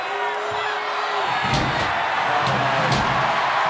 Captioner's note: crowd cheers